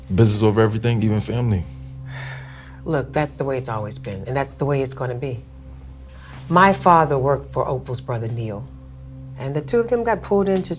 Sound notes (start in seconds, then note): 2.0 sighing